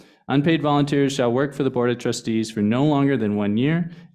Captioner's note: none